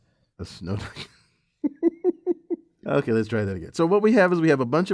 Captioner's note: laugh